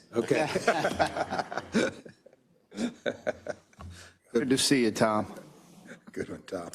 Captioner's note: laugh